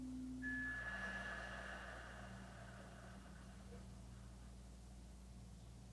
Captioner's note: slow breathing continues; chimes ringing continues